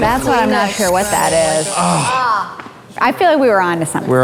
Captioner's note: frustrated grunts; buzzer